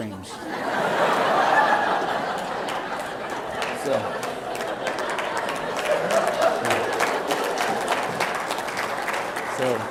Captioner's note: laughter and Applause